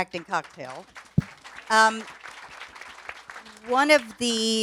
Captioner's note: audience applauds